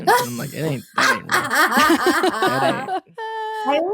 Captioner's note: laughing